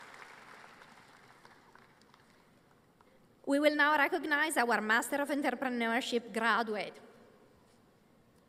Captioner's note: applause